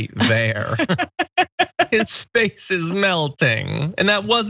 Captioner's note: laugh